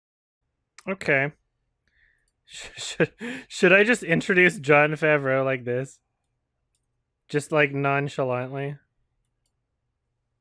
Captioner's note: chuckles